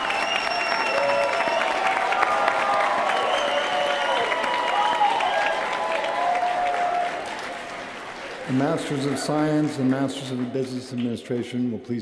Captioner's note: cheers & applause